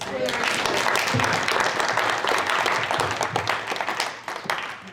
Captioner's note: applause